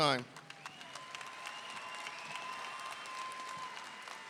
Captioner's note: audience cheering